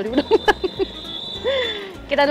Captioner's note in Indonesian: Ketawa